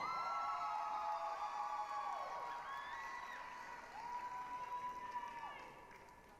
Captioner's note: applause, cheering